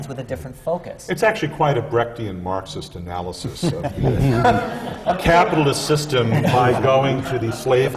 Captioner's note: laughter